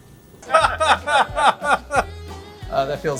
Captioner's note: boisterous laughter